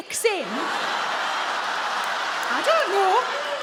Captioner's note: audience groans